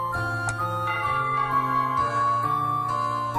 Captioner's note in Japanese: 鐘の音：リンゴーン